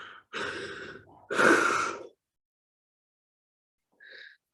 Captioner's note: sighing